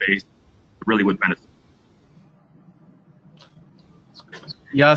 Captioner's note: break in audio